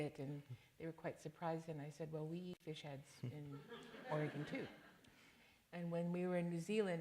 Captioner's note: laughter